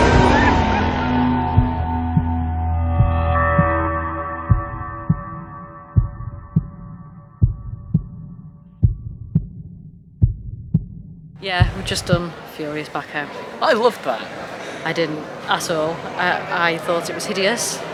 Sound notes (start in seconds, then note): 1.3 heart beating